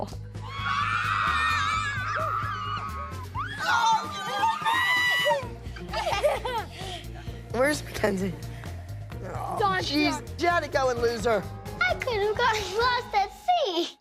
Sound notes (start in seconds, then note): 0.4 girls screaming; 3.0 Abby screams; 3.3 girls laugh